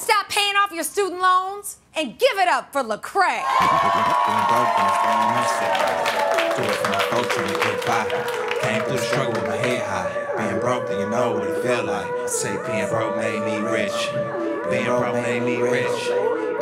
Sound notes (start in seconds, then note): 3.4 cheering and applause